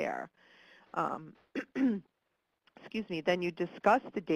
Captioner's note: coughs